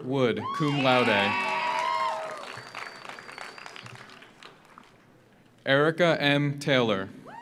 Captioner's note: audience cheers; audience applauds